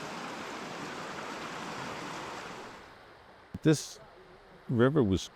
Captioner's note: water rushing